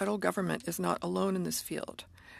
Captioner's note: speaking French